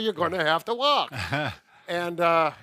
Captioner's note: laughs